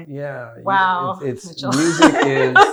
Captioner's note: laughs